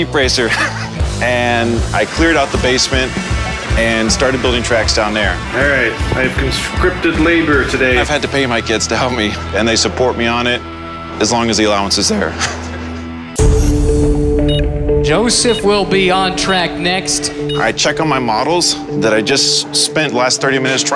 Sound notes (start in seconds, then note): 0.4 laughs; 12.2 laughs; 13.2 upbeat abstract music